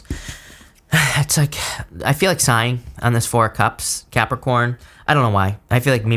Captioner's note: sighs